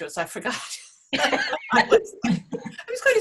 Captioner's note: both laughing